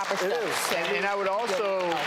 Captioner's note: audience applauds